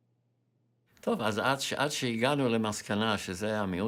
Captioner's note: in Hebrew